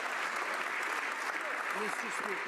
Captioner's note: some Applause